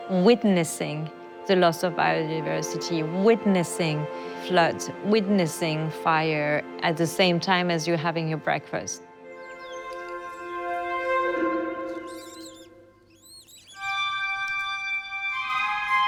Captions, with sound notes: Witnessing the loss of biodiversity, witnessing floods, witnessing fire at the same time as you're having your breakfast. (gentle music) (birds chirping)